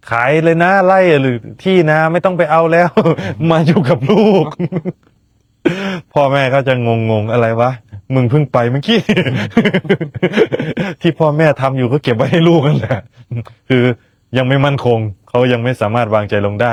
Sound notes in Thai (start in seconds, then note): 2.8 เสียงหัวเราะ; 8.9 เสียงหัวเราะ